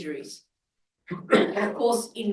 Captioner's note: coughs